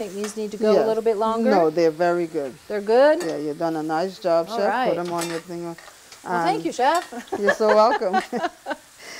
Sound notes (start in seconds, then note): 7.3 laughing